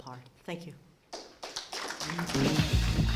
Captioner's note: applause